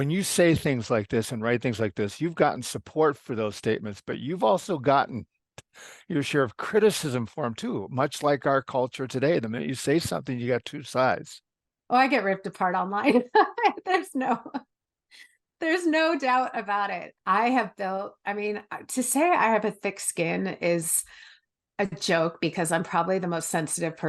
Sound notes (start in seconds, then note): 13.1 laugh